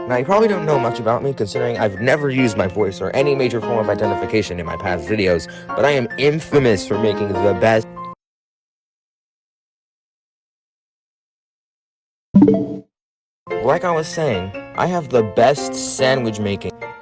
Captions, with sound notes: Now you probably don't know much about me considering I've never used my voice or any major form of identification in my past videos, but I am INFAMOUS for making the best- *sound of regret* Like I was saying, I have the BEST sandwich making-